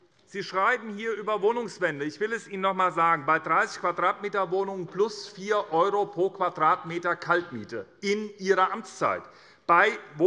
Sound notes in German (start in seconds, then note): none